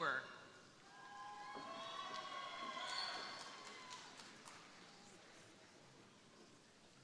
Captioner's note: crowd cheering; crowd applauding